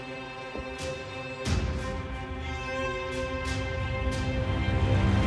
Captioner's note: footsteps descending slowly